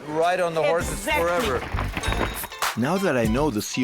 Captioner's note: hoofs clopping